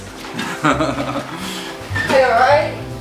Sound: laughing

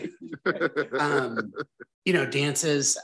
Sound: board members laugh

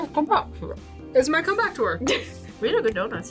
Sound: laughs

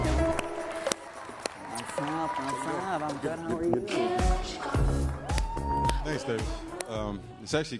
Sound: applause

